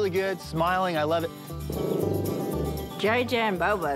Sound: growling

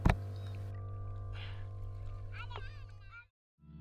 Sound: sounds of children playing

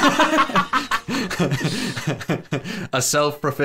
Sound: laughing

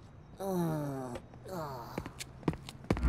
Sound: groaning

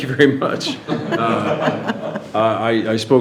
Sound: all laughing

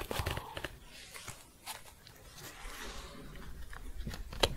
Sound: shuffling

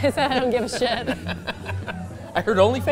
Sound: laughs

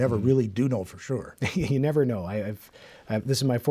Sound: laughs

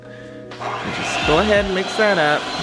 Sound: mixer whirring

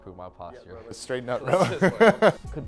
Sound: laughs

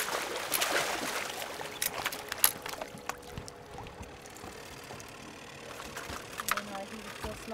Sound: fish splashing

